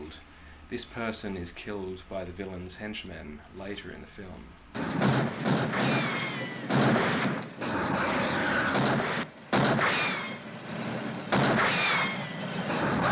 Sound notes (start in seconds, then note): 4.7 flame roaring, gunshot, gunshot, ricochet, gunshot; 6.7 gunshot; 7.6 flame roaring; 9.4 gunshot; 9.4 gunshot, ricochet; 10.4 engine whirring; 11.2 gunshot, ricochet; 12.0 engine whirring, flame roaring